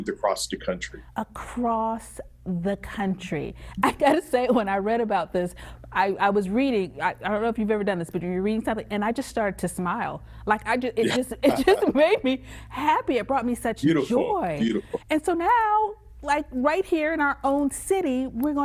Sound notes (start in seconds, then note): 11.0 laughs